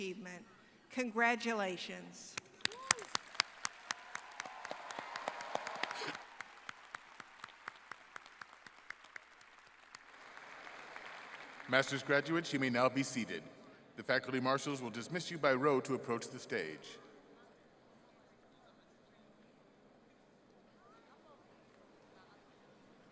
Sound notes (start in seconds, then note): 7.1 applause